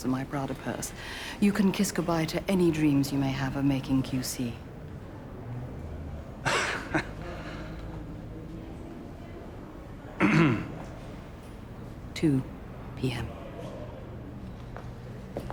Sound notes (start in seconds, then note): 6.4 chuckling; 10.2 throat clearing